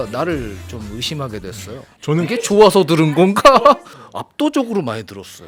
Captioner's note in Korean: 웃음